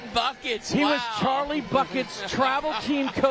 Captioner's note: laughter